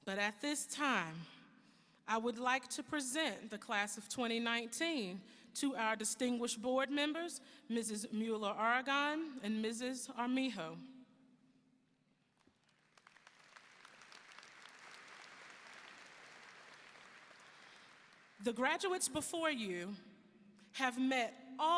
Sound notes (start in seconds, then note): 12.6 audience applauding